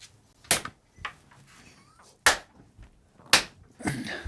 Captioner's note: hands thuds